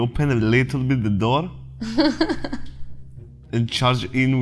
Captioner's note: chuckles